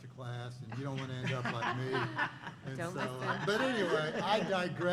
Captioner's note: laughter